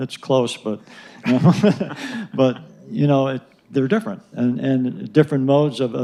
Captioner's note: laugher